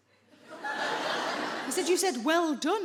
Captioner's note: audience laughing